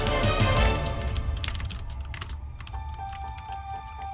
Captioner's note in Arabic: نقر على لوحة المفاتيح